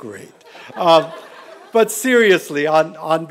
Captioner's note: laughter